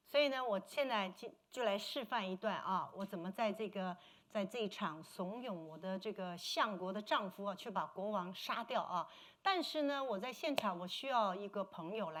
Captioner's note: speaking Mandarin